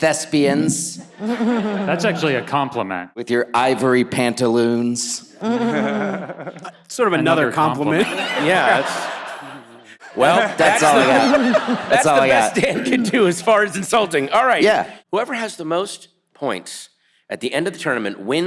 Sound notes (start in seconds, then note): 5.4 all laughs